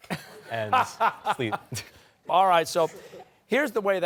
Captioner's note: laughter